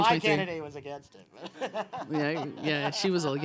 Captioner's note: laughs